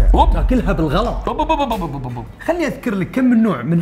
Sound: lip burbling

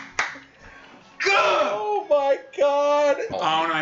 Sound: guttural scream

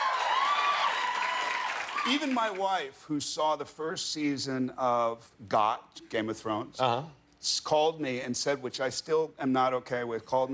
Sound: cheers and applause

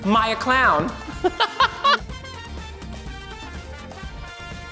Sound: laughs

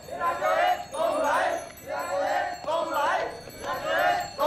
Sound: chanting

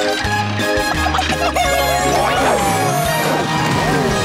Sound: clucking

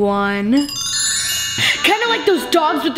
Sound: bells chime

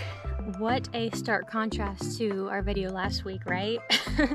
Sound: laughter

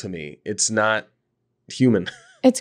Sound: laughing

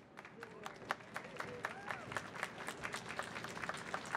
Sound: audience clapping

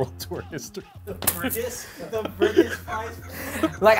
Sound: both laughing

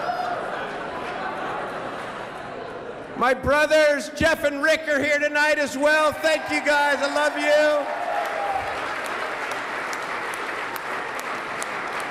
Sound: laughter

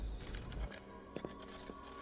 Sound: footsteps

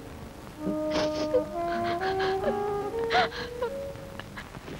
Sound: crying

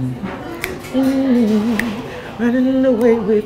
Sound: snapping

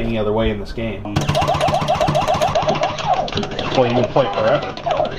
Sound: game beeping; buttons clicking

